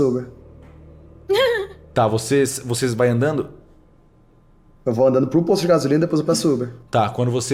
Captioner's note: laughs